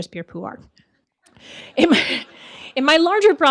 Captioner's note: audience laughing